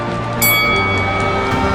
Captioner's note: bell dings